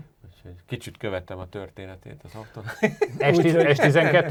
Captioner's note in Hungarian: nevetés